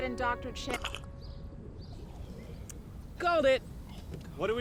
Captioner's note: squelching